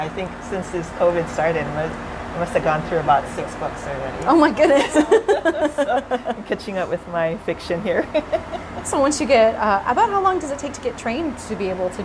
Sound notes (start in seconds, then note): 4.7 laughter